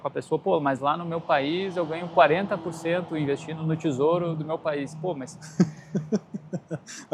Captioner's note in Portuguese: risadas